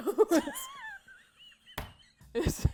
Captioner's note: laughter